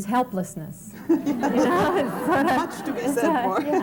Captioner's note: laughter